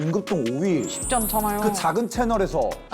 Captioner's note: sound effect of an empathy fairy